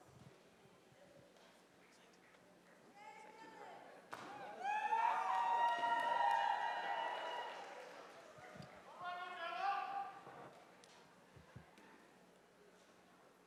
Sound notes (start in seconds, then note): 4.6 audience applauding